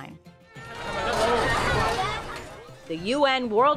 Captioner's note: people clamoring